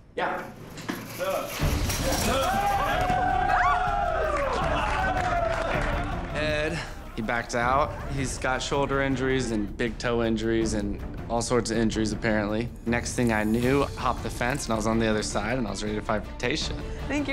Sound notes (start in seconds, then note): 2.2 all cheering; 4.2 applause